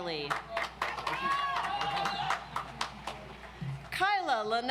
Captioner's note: audience applauds